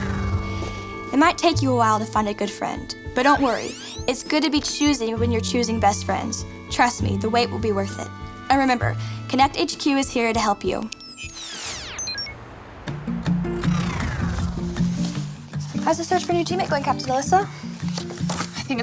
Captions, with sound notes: It might take you a while to find a good friend. But don't worry. It's good to be choosy when you're choosing best friends. Trust me, the wait will be worth it. And remember, Konnect HQ is here to help you. (electronic swoosh) (upbeat music) How's the search for a new teammate going, Captain Alissa?